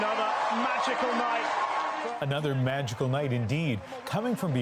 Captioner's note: cheering